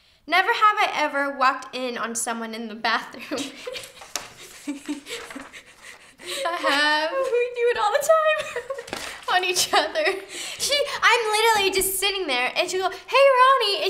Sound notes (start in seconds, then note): 3.2 snickering